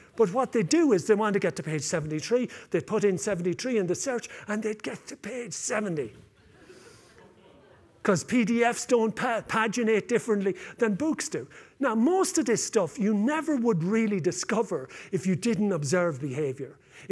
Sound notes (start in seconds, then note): 6.3 laughter